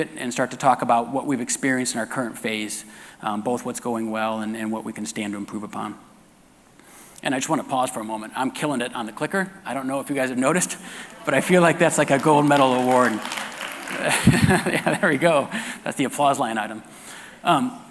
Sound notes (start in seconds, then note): 13.5 audience applause; 14.6 laughing